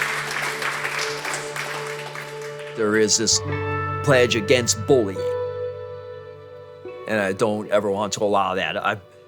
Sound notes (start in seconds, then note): 2.7 class applauds